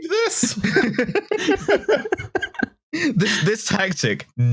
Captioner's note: laughter